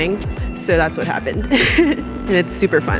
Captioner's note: laughs